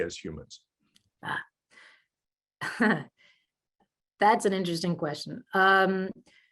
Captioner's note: chuckles